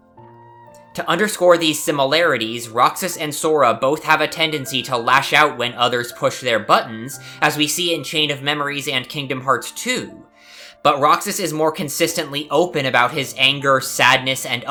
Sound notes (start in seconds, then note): 0.9 exhale; 0.9 inhale